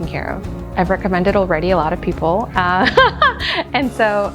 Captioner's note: laughs